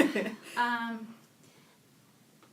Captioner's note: sighs